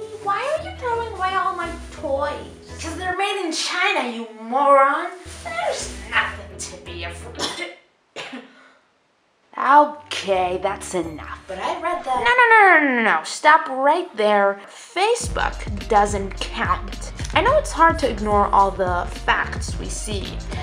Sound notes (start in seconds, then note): 7.3 coughs